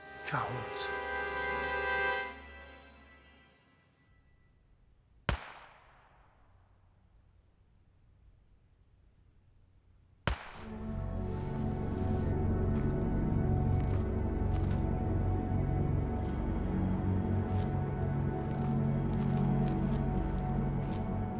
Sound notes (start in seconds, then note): 0.0 tense music; 5.3 gun shots; 12.0 dramatic music